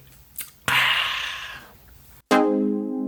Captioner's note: pleasure sound